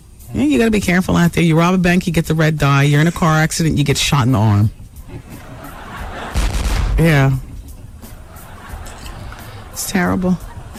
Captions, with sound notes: You got to be careful out there. You rob a bank, you get the red dye, you're in a car accident, you get shot in the arm. [LAUGHTER] Yeah. It's terrible.